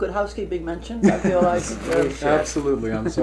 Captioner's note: laughter